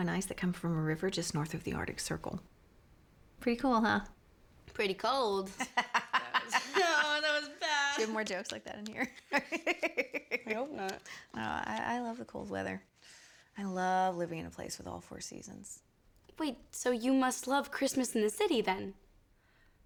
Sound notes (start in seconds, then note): 5.5 laughter